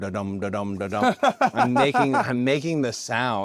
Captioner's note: laugh